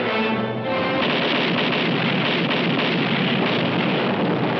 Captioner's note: cannon firing